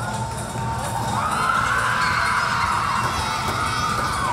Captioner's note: crowd cheering